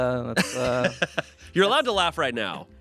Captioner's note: laughs